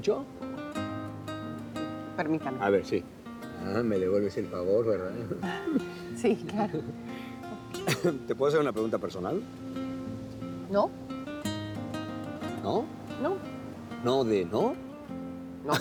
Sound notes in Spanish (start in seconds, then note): 1.9 Ríe; 7.5 Risas